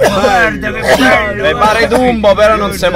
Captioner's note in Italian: tossisce sempre peggio